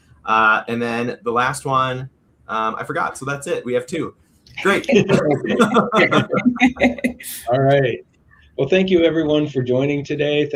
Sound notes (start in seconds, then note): 4.6 all laughing